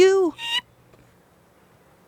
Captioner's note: Barak squeaks